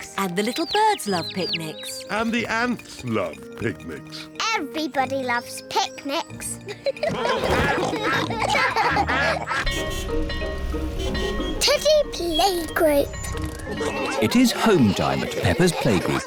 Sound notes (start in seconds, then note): 6.6 quacking; 6.6 all giggle; 9.6 car horns beeping